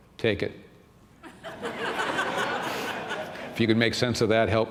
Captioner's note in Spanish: risas